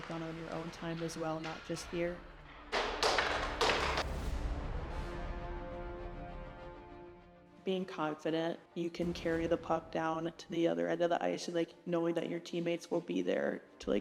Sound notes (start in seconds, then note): 2.5 hockey stick clattering; 4.2 dramatic orchestral music